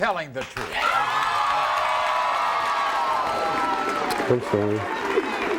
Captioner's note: crowd cheering